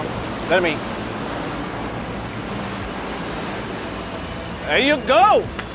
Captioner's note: revving boat engine